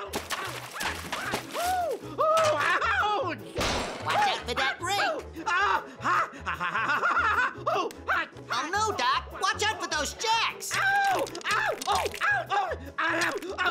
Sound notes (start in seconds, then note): 0.0 water splashes; 2.9 rake whacks; 5.4 Elmer screaming; 11.4 screams